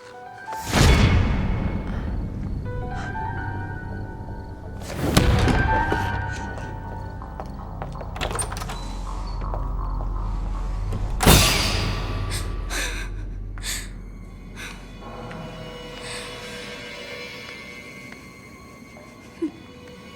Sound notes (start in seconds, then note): 0.1 ominous music; 11.1 Tara sobbing; 11.1 eerie music